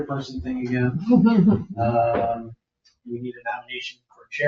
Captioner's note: people chuckle